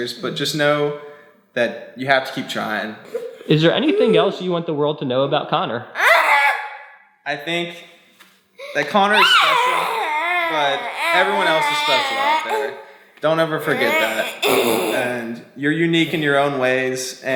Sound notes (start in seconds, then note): 6.0 vocalizing